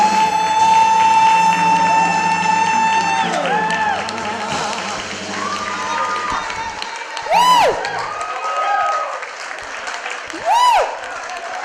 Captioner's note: applause